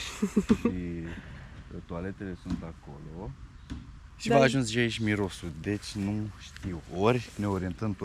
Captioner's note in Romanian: râsete